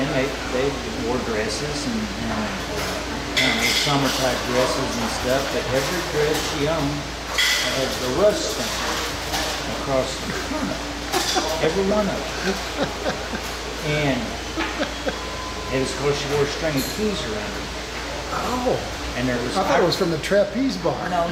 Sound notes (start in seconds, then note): 13.0 laughing